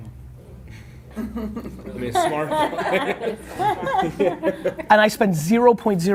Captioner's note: laughing